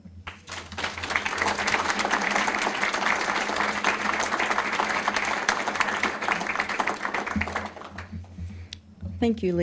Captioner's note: applause